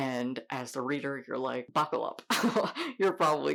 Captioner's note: laughing